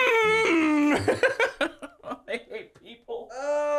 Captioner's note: laughs